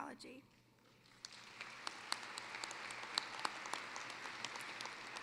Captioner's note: applause